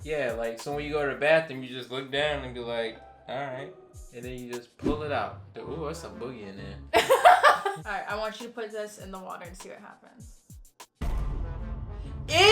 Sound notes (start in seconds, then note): 7.0 laughs; 11.0 dramatic music